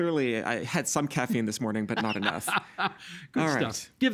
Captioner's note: laughing